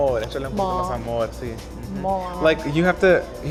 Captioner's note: speaking Spanish